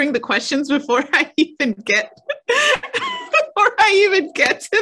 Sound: laughs

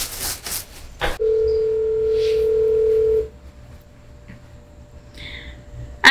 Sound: telephone ring

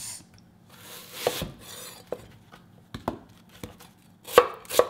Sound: chopping

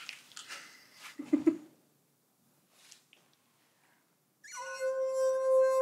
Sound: chuckles

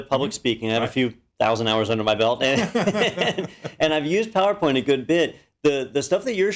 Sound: laugh

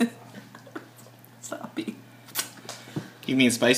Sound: laughing

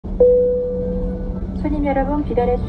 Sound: plane bell dings; women on PA system speaks Korean

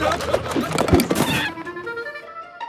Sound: screams

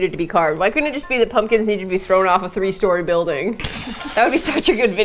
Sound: laughs

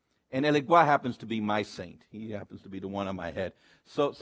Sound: speaks foreign language

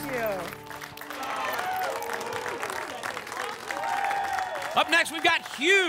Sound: applause and cheering

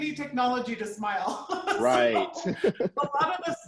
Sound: chuckling

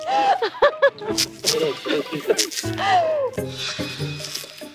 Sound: dying of laughter

